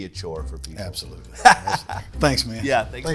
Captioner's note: laughing